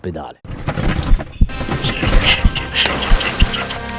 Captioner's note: noises of wreckage; distant voices of Rescuers